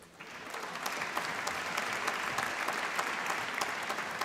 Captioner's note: applause